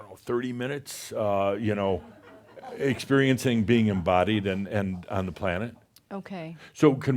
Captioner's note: a few chuckles